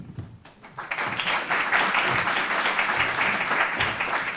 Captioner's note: audience applauds